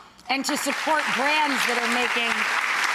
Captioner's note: audience clapping